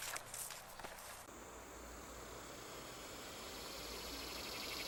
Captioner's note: summer Day Insects